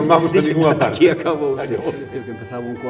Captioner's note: laughs